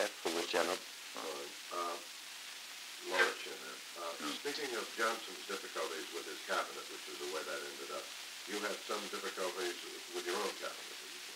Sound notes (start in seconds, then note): 1.1 Murrow, mumbling